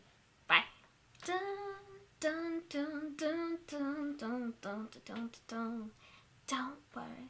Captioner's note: humming song